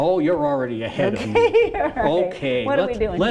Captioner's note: laughs